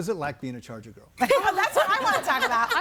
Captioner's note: laughs